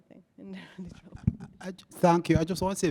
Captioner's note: chuckles